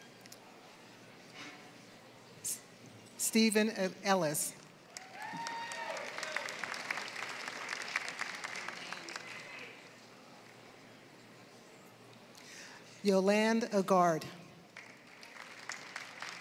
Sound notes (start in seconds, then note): 4.9 applause; 14.7 applause